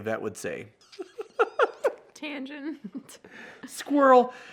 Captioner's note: laughs